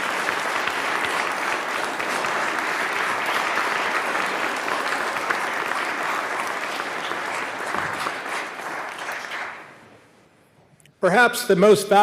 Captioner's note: applause